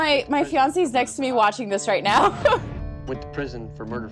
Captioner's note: laughs